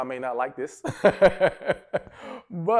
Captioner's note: laughs